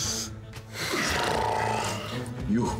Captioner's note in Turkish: Gürültülü horlama sesi